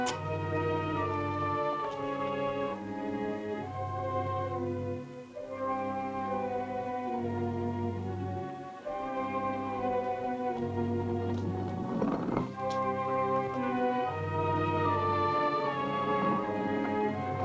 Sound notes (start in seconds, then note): 11.4 stone scraping; 12.8 grim music continues